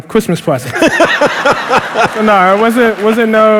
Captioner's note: laughter